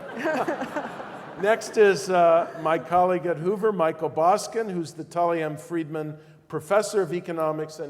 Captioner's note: laugh